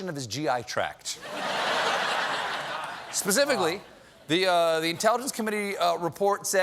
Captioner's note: laughter